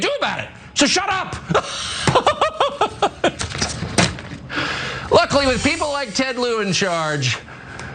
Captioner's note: laugh